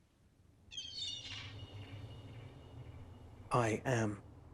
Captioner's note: seagull mewing